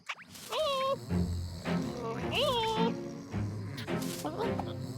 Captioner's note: caterpillar noises